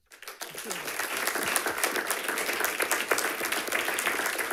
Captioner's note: audience applauds